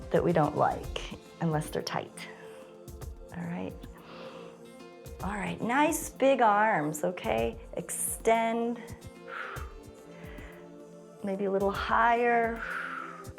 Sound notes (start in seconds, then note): 3.9 inhales; 11.9 exhales